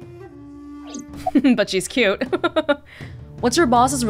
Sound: chuckles

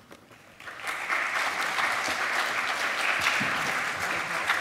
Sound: applause

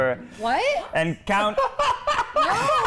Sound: Keith laughing

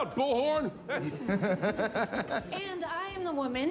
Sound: friends laughing

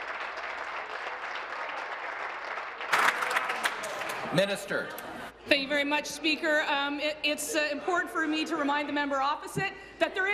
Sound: applause

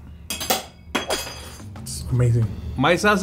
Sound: spoon bangs on floor

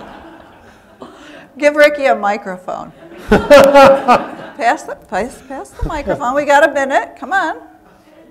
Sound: laughter

